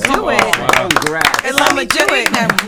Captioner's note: everyone clapping